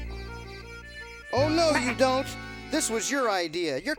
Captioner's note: goat bleating